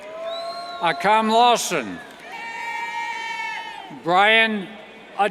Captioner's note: cheers